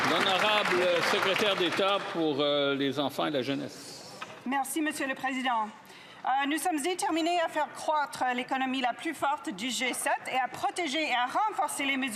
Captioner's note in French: applaudissements